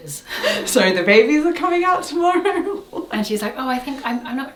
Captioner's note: laughs